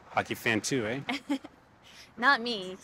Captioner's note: Keely chuckles